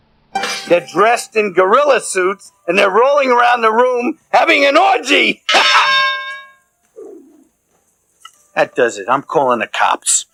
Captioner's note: clank